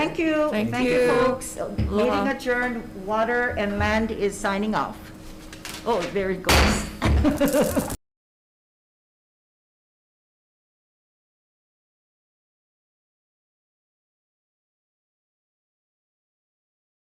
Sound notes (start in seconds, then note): 6.5 gavel pounds; 7.1 laughs